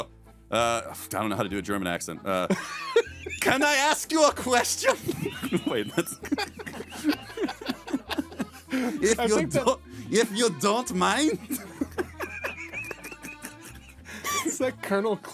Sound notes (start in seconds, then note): 2.6 laughing; 12.6 all laughing